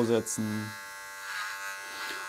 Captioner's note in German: Rasiergeräusche